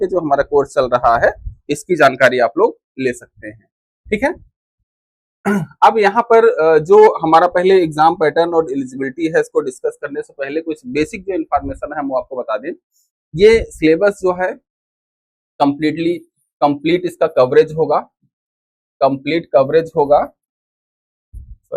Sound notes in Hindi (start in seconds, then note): 5.4 गला साफ़ करने की आवाज़